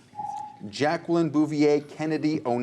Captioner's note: ringing